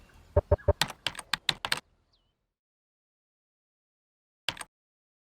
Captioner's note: keyboard clicks